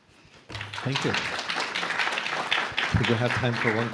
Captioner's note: applause